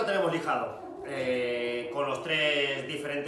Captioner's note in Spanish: ladridos